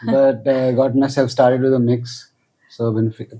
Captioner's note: laughs